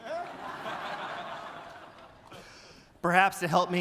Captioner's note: audience laughing